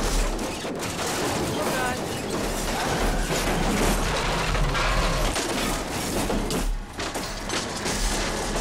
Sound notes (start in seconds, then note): 2.4 metal clanging